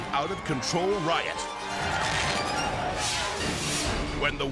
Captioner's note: intense music; firecrackers crackling